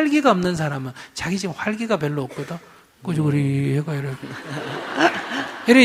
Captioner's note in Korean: 청중 웃음